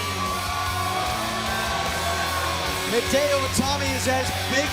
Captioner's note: crowd cheering